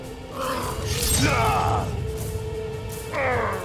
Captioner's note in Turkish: Kılıç sesi